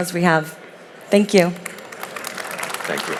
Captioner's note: audience clapping